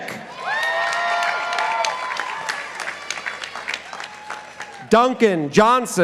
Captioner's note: participants applauding